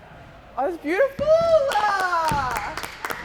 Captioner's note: claps